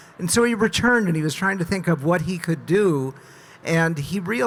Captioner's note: none